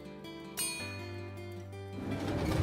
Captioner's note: ding